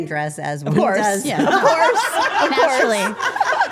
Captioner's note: group laughing